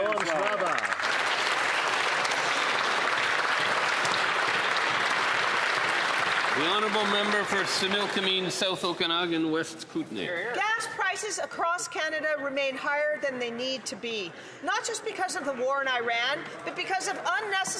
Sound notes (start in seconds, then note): 3.9 speaking Alternate Language; 6.5 applause